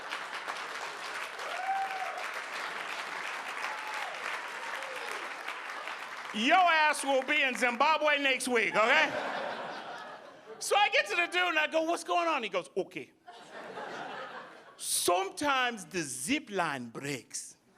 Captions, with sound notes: Your ass will be in Zimbabwe next week, okay? (audience laughing) So I get to the dude and I go, what's going on? He goes, okay, sometimes the zip line breaks.